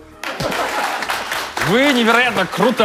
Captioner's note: laughter